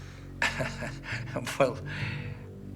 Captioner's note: Bridges laughs